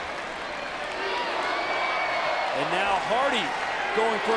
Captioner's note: audience cheering